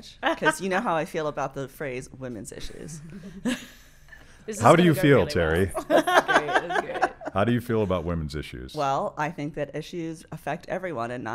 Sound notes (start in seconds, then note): 5.8 laughing